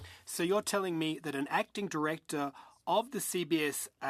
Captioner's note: speaking in French